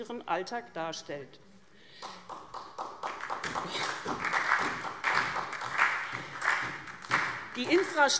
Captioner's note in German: Beifall SPD